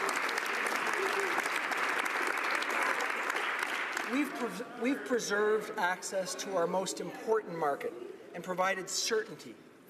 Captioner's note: applause